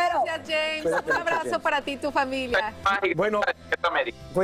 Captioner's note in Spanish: risas